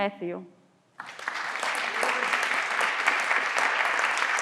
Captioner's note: everyone claps